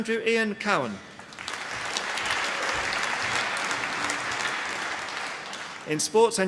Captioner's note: applause